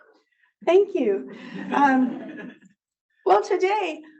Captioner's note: audience laughs